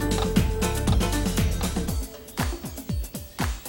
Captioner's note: clicking of camera